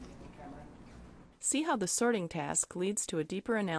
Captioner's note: voiceover